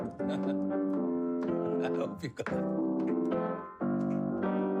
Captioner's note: chuckling; ragtime piano music